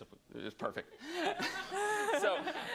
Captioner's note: laughter